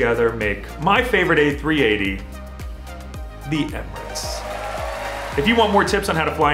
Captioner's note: applause